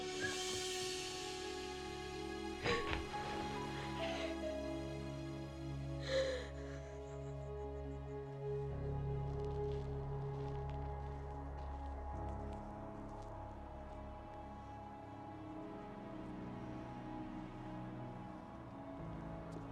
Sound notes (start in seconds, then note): 2.6 Grace sobbing; 3.6 somber music